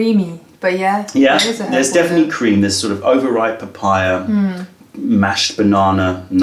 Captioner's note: sips tea